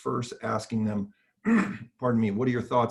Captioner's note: coughing